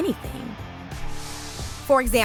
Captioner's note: people cheering